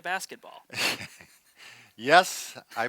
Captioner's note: laughs